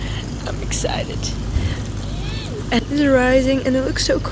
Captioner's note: excited squeal